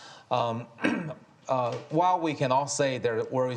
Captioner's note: Kai-Fu coughs